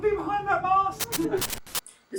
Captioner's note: static glitch